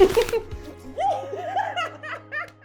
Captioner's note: laughing